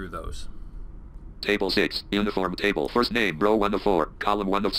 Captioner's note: screen reader narrating